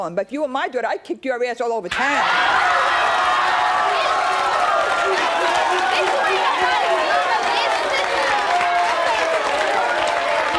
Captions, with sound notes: but if you were my daughter, I'd kick your ass all over town. (audience cheering) - I'm glad you ain't my mama, bitch! Bitch, you ain't nobody's mama, bitch. (clapping)